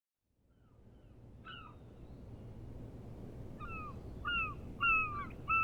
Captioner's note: gulls cawing